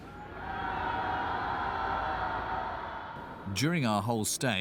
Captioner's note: people cheering